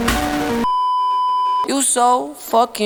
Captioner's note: beeeeeeeeeeeep